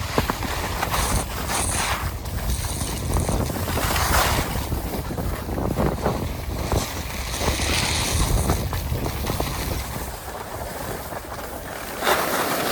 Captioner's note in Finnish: tuulen kohinaa